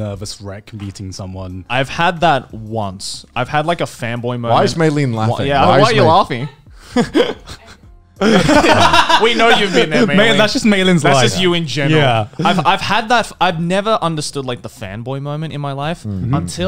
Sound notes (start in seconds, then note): 8.2 men laughing; 8.2 chuckles